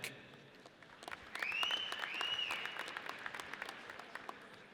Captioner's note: audience cheers